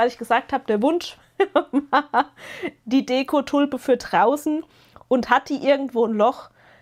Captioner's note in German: gelächter